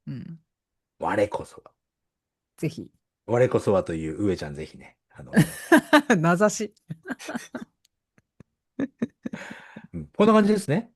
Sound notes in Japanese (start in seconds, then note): 6.9 笑い